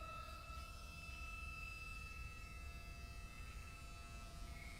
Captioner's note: razor buzzing